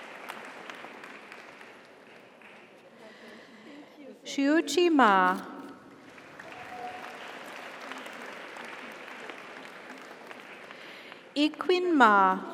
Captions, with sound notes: - Congratulations. - Thank you - Xiuqi Ma. (audience applauds) (audience cheers) Yiqun Ma.